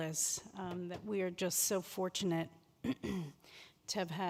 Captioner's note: clears throat